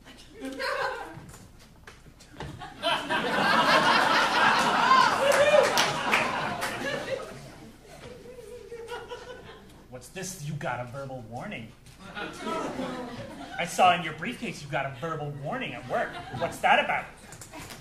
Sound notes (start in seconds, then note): 2.6 audience laughing